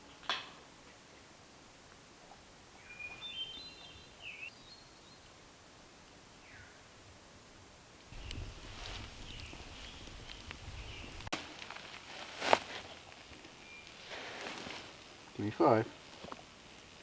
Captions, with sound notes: (birds chirping) Give me five.